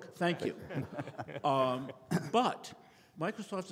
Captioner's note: people laughing